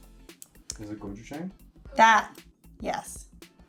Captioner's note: speaks in foreign language